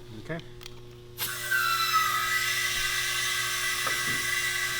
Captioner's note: air gushing